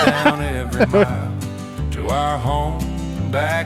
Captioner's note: laughing